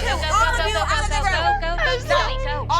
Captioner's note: sobbing